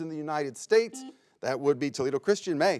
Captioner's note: buzzer beeps